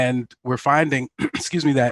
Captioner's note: clears throat